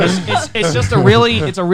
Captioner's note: laughing